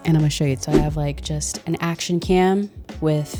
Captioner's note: wind whipping